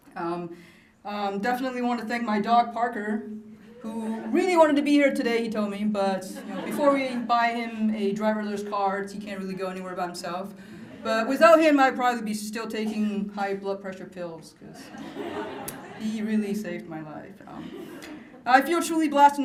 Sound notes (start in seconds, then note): 6.3 laughter; 14.8 laughter; 17.6 laughter